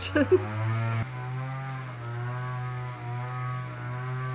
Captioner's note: strimmer